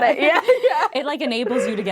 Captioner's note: laughing